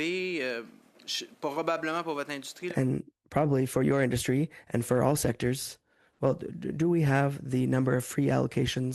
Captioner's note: speaking French